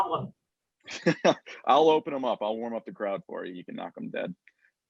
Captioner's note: laugh